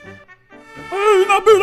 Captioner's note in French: sirène